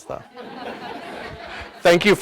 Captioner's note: audience laughs